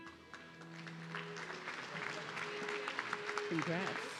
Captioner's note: audience clapping